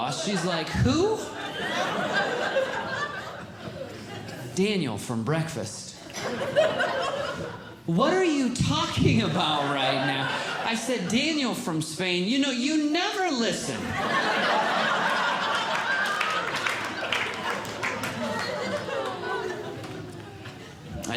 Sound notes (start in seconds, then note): 6.0 audience Laughing; 13.6 audience Laughing